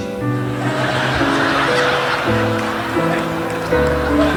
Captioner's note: audience laughing; Don chuckling